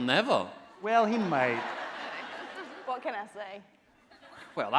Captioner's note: audience laughing